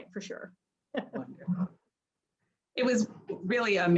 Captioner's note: laughs